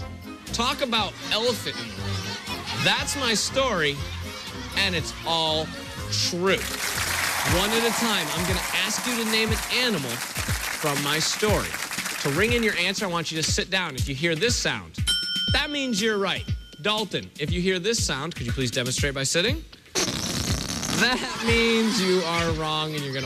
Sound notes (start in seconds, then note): 19.9 farting noise